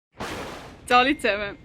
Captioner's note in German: krachender Donner